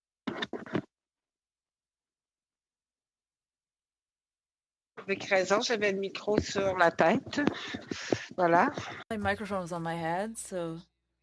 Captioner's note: speaking FRENCH